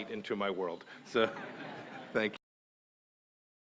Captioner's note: laughter